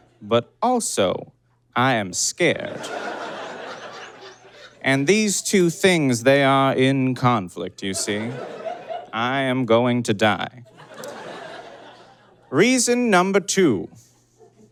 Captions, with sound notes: But also, I am scared. (audience cackles) And these two things, they are in conflict, you see. I am going to die. (audience chuckles) Reason number two...